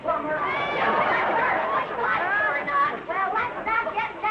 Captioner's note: Vivian drowned out by audience laughing